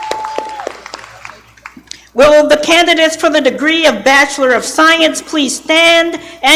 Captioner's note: applause